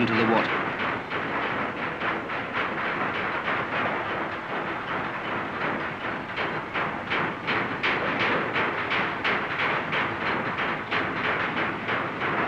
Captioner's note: hammering